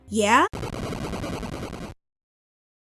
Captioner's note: Castlevania game sound effect 4